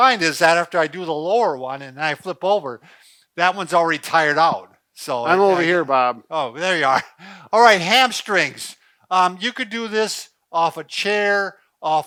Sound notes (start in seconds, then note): 5.2 laughs